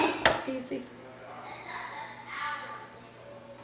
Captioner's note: sounds of children playing off camera